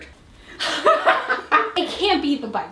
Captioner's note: both laugh